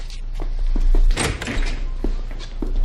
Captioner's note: door opening